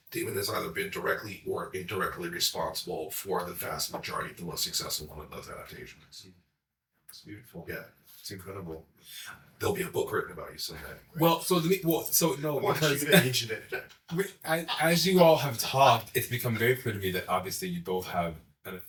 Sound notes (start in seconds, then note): 12.4 both laugh; 12.8 chatting